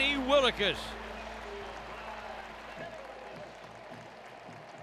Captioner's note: crowd clapping